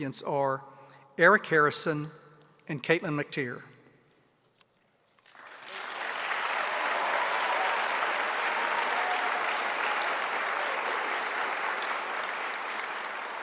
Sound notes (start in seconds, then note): 5.2 audience applauding